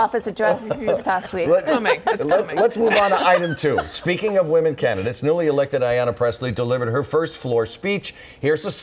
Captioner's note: laughter